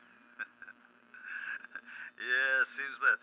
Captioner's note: laughs